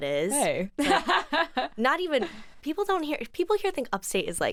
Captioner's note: laughs